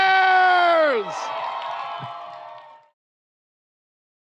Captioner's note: audience cheers